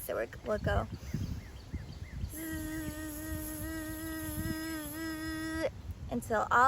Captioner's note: breathes in; buzzing sounds